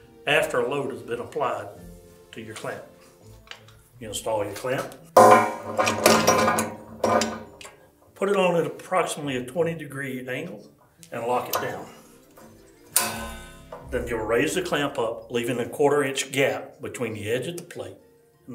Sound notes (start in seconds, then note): 5.2 clamp clanging; 12.9 clamp twanging